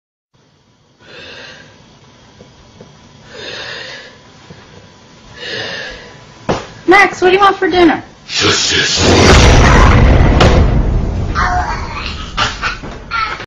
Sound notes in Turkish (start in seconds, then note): 1.0 Nefes; 3.2 Hırıltılı Nefesi; 5.3 Batman Nefesi; 9.6 Korkunç Boğulma Sesleri